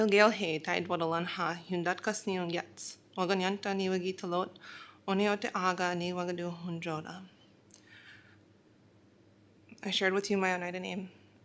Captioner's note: speaking in foreign language